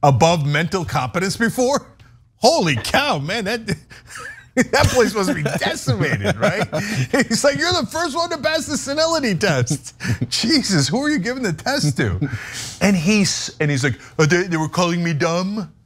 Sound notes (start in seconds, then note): 4.0 laugh